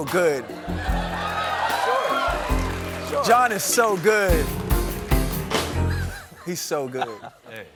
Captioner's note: applause